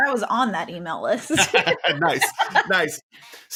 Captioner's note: both laughing; laughs nervously